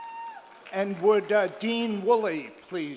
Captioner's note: audience cheers